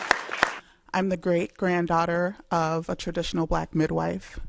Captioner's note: applause